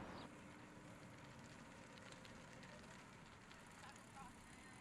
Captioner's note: bike wheels clicking